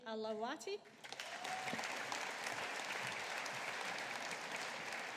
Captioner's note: audience applauding